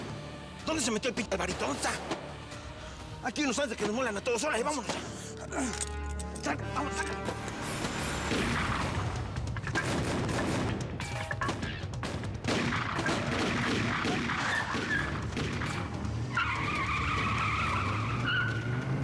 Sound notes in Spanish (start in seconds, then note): 8.1 sigue el tiroteo; 14.2 chirrido de neumáticos